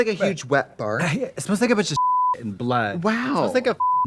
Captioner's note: beep